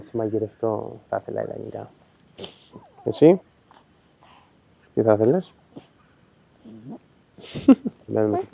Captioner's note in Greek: χαχανίζει